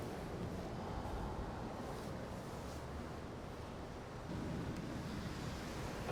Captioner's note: traffic continues rumbling